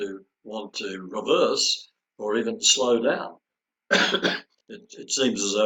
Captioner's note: coughs